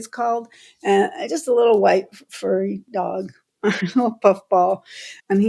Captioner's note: laughter